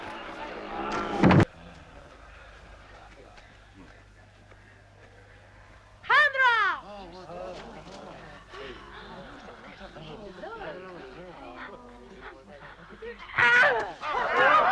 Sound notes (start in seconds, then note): 6.3 chieftains murmuring; 13.5 Hundra grunts